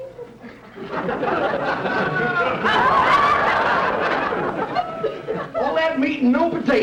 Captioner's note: audience laughter